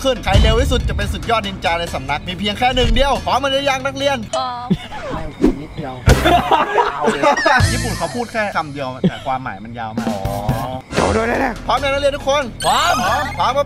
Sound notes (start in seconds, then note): 5.9 laughs; 11.0 mumbling in Japanese